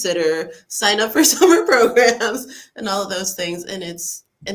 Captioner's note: laughs